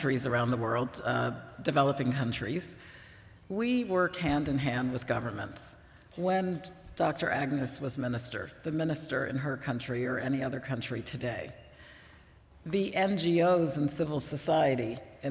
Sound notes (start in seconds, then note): none